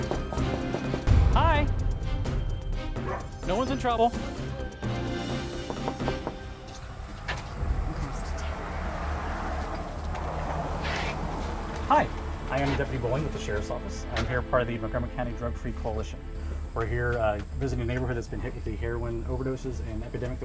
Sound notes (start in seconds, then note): 0.3 door knocking; 3.0 dog barking; 5.4 door knocking